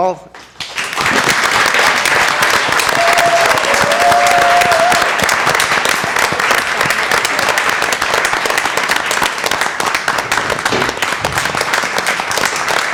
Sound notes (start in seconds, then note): 8.0 applause